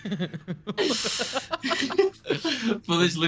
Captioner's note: laughing